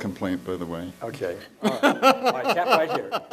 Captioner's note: laughs